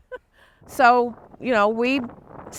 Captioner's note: laughs